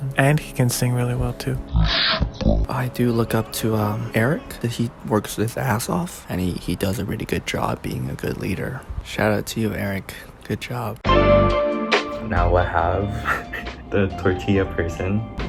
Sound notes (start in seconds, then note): 1.6 indiscernible gremlin noises